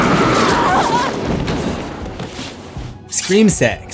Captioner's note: screams